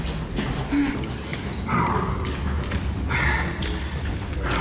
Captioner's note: panting